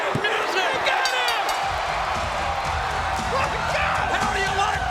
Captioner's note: audience cheering; bell rings